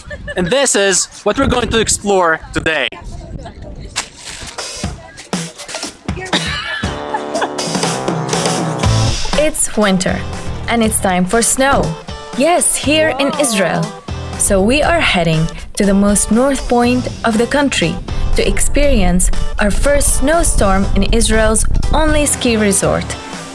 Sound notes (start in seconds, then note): 6.2 laughter; 7.6 upbeat music